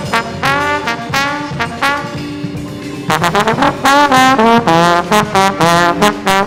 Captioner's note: none